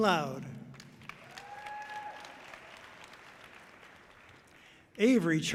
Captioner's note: audience cheering loudly